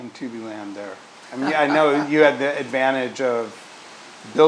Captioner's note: laugh